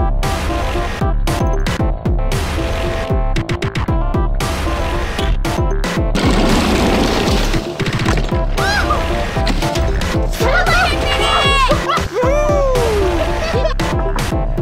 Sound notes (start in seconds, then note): 0.1 upbeat music; 8.5 shouts excitedly; 11.6 laughs; 11.7 shouts excitedly